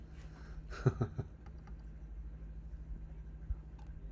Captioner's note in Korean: 웃음